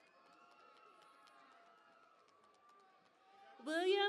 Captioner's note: cheering and Applause